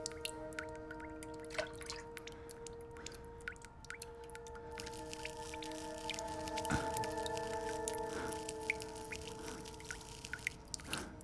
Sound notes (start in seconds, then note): 6.3 scratching